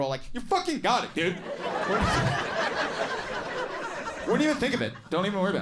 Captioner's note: audience laughing